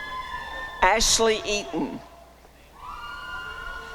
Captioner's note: applause and cheering